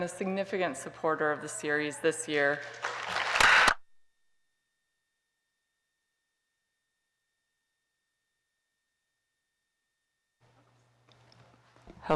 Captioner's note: applause